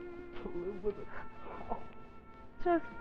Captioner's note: Dover mumbles